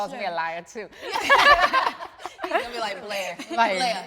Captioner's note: everyone laughing amusingly